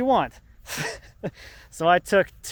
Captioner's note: laughing